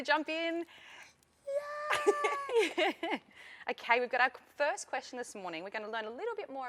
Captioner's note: laughter